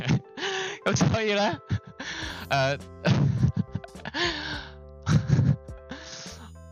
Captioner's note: laughs